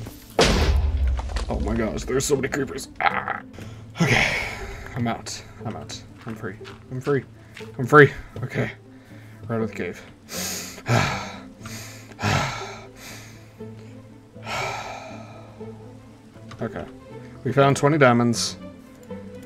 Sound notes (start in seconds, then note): 0.4 creeper explosion #2; 8.9 deep breathes of fresh air; 14.4 big deep breathe